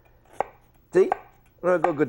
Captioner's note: chop